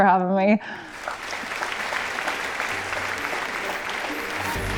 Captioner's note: audience applauding; spirited music